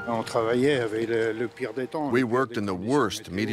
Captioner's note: speaking in foreign language